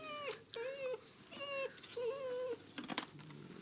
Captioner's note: dog whining